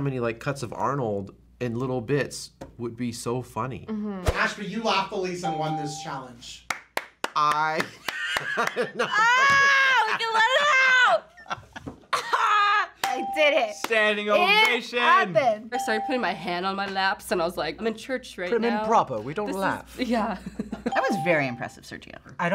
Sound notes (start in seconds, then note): 5.4 ding; 6.6 clapping; 8.0 laughs; 20.4 chuckles